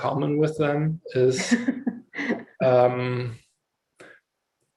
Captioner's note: laughs